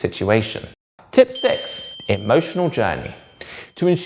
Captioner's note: bell dings